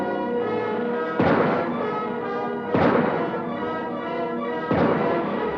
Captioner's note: adventurous music; gunshots blasting